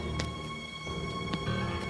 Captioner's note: footsteps